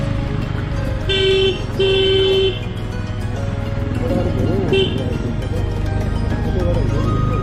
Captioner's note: trying to get the attention by beeping